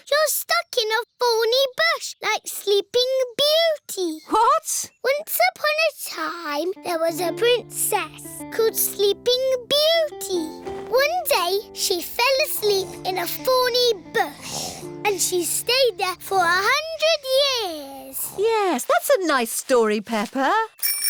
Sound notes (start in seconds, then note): 18.0 snoring